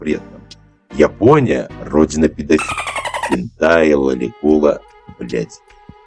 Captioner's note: dolphin beed